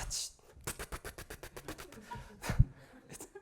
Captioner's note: making rapid hitting sounds; rapid hitting sounds